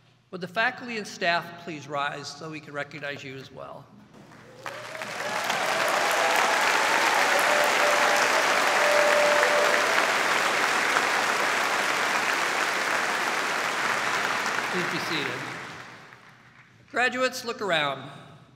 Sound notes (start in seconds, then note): 4.2 applauding